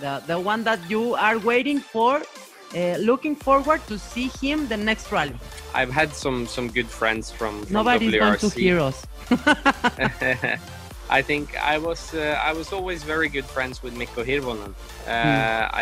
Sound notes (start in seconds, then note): 9.2 laughs